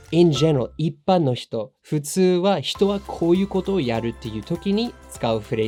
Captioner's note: speaking in foreign language